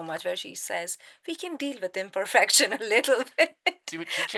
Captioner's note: laughing